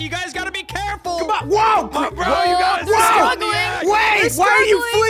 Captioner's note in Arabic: المشاركون يصرخون